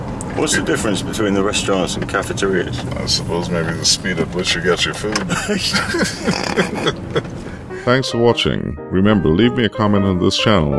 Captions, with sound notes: What the difference between a restaurants and cafeterias? I suppose it maybe the speed at which you get your food. [Laughing] Thanks for watching. Remember, leave me a comment on this channel